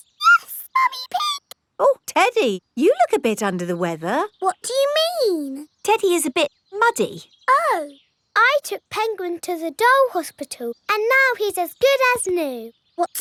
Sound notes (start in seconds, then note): 0.2 in high-pitched voice; 4.7 in normal voice